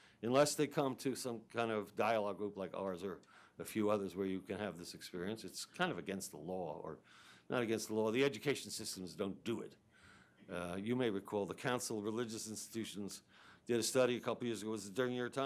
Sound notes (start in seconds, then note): none